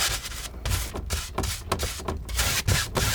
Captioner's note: tapping